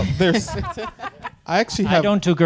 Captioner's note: panelists laughing